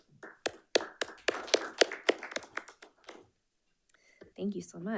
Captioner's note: panelists applauding